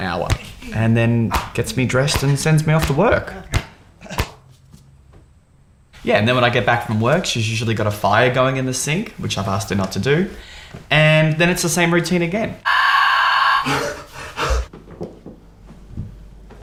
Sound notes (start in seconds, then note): 12.6 screams